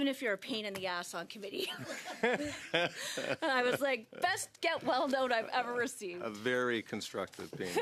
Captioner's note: laughter